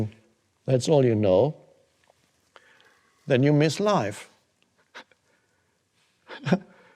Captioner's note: chuckles